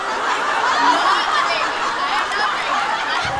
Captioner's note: laughter